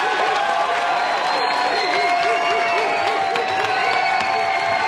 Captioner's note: Público aplaudindo e aplaudindo